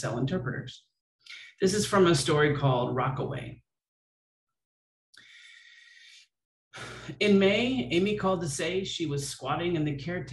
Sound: exhales

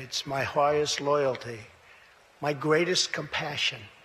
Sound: none

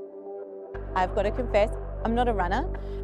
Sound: motorcycle revving

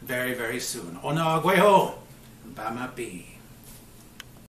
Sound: speaking Mohawk and Ojibwe

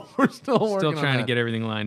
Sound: laughter

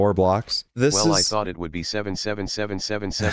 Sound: tts robot

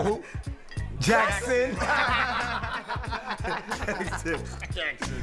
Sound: laughing lightly

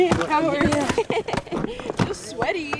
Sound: laughs

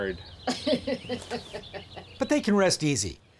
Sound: woman chuckling

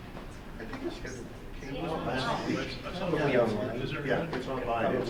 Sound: group chattering

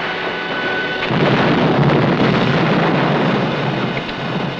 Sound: explosion blasting

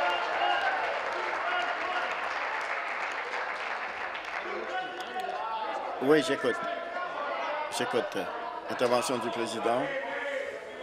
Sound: applause

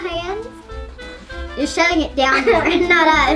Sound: laughs

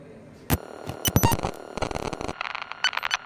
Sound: glitch noises

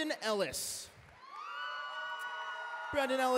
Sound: cheering

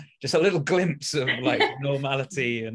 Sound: laughs

